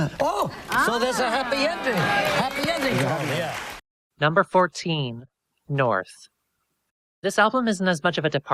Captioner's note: audience cheers